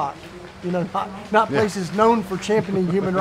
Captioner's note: both laugh